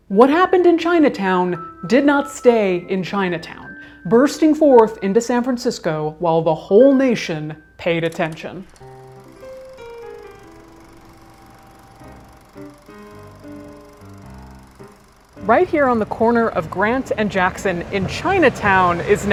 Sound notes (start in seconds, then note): 8.0 bouncy music; 8.1 projector whirring